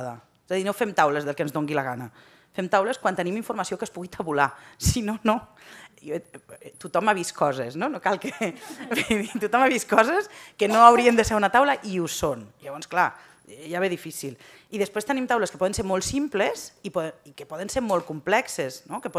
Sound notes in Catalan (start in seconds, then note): 8.2 riures